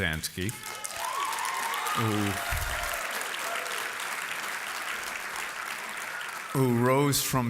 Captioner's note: applause